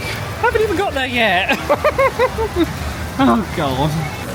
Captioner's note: laughs